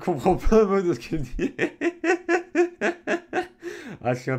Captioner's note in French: Rires